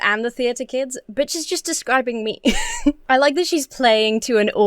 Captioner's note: laughs